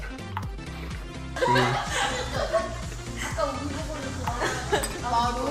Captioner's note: students laughing